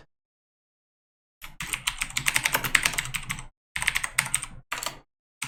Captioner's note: keyboard typing